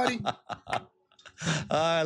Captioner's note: laughter